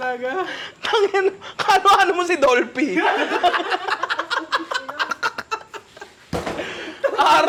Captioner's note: laughter